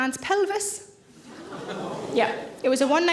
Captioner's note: audience gasp